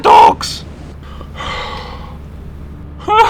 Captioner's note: it's all over sigh; post-thrill laughter